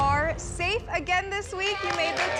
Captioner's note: applause